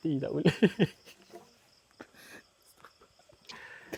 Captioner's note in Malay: ketawa